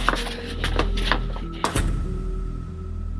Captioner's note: door slams